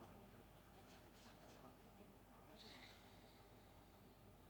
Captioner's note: breathing deeply